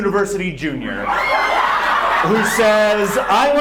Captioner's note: audience laughs